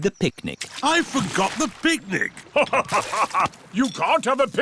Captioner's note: laughs